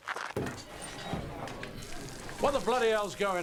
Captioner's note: patrons chattering